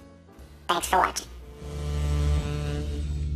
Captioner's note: computerized voice; jazz music fades